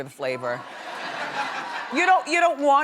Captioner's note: audience laughing